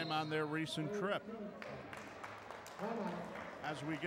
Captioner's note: clapping